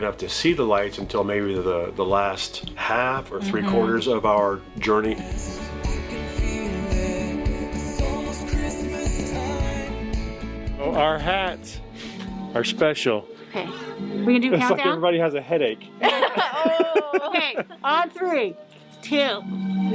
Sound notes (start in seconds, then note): 16.0 all laughing